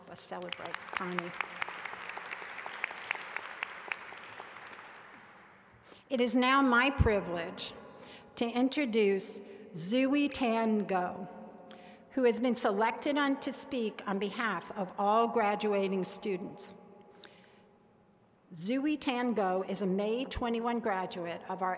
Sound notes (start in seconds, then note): 3.8 applause